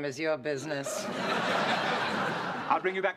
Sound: laughter

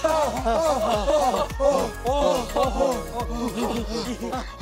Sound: heavy breathing

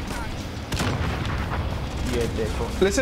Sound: bomb exploding

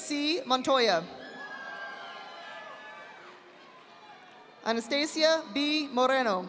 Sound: audience applauding

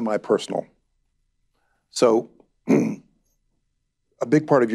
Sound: clears throat

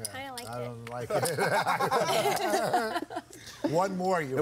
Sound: laughs

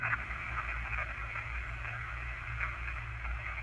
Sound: static

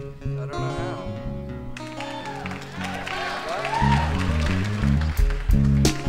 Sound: audience applauding

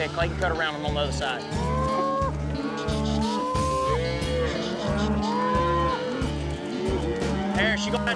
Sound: mooing

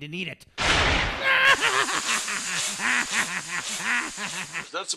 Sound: laughs like a maniac

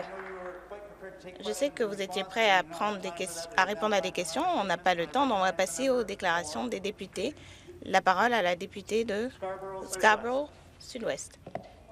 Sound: some applause

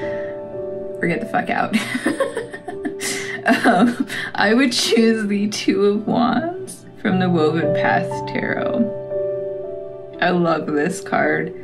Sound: laugh

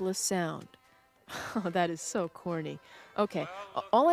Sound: laughs

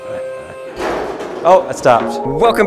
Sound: lift clangs

